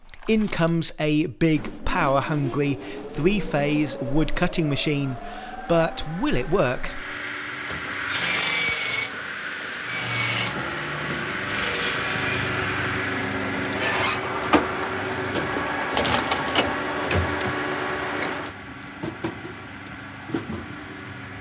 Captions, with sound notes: In comes a big power hungry, three phase wood cutting machine, but will it work? (machine whirring)